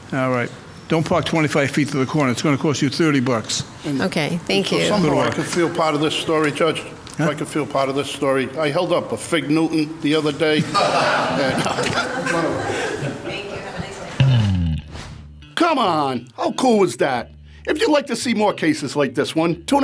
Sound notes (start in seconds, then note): 10.6 laughs